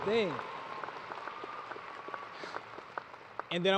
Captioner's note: applause